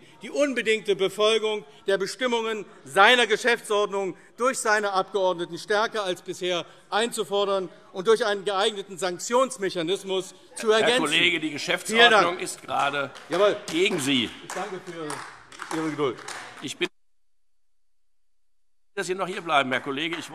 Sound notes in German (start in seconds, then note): 10.7 Beifall; 16.8 Beifall AfD